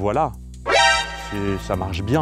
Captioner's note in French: bruit révélation Metar Gear Solid